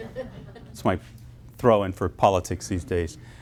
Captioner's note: audience laughing